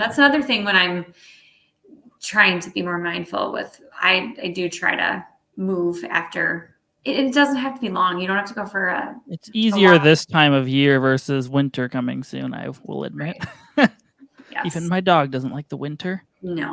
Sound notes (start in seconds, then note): 13.2 laughs